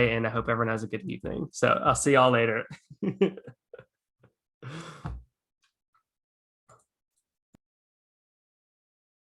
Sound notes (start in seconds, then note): 3.1 laughs